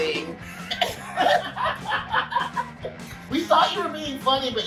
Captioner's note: laughing